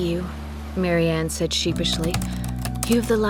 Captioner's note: typing